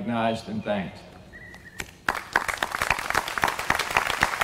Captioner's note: applause